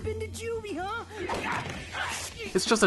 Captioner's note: angry gremlin noises